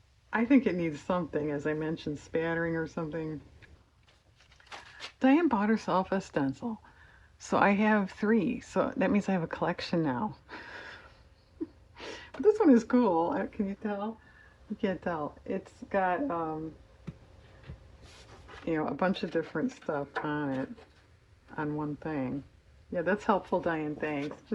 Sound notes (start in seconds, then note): 11.3 laughs